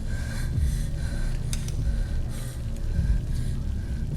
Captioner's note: respira fuertemente